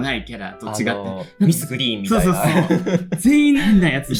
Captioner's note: laughs